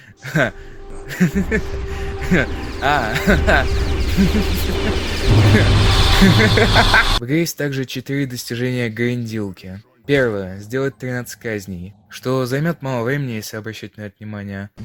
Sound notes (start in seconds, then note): 1.1 laughter intensifies